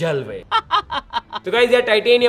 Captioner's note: laughing